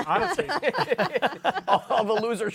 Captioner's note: laughter